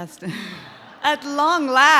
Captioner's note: both laugh